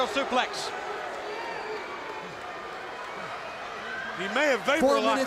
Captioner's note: crowd chatter